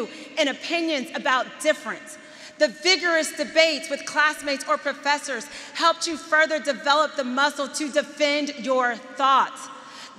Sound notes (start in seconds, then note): none